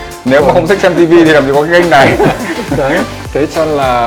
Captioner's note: laugh